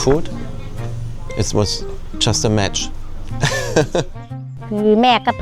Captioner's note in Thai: เสียงหัวเราะ